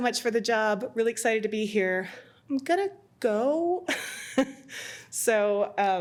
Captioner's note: laughs